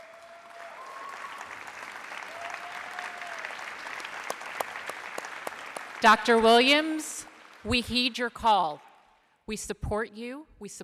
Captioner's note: applause